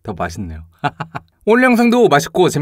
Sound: laugh 🤣

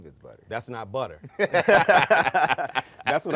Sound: both laughing

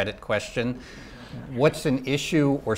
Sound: audience laughing

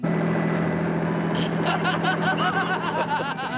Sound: laughing

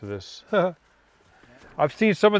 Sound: chuckles

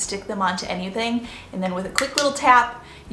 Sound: clicking

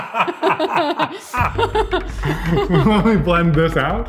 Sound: laughs; laughing

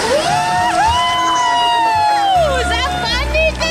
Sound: everyone cheering

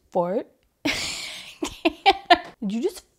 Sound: laughing

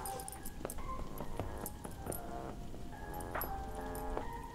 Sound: dog collar jangles

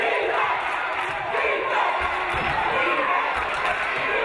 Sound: audience cheering

